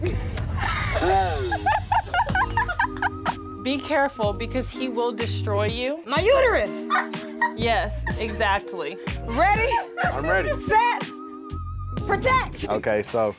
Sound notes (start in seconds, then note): 0.5 laugh